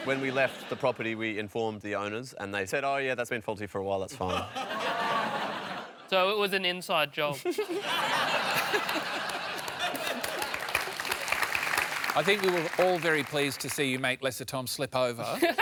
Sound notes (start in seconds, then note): 7.3 laughter